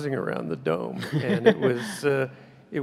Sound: laughs

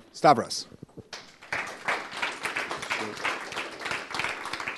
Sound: applause

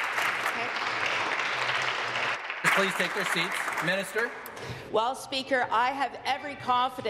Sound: applause

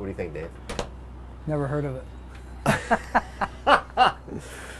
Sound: laughing; laughs

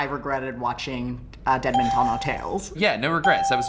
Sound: chuckles

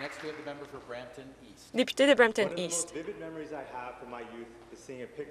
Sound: applause

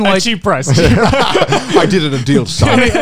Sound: everyone laughs

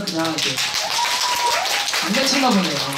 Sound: A round of applause before he's finished talking

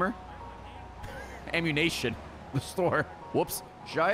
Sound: laughs

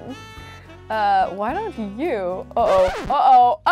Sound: record scratches

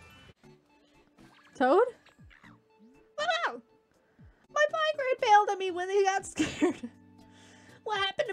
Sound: toad noise

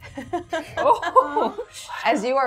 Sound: gamers laughing

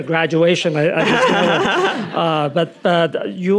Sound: Nadine laughing

